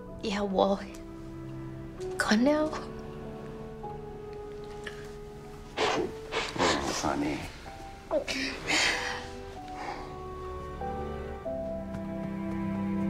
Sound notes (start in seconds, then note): 5.7 Cassie sniffles; 8.1 somber music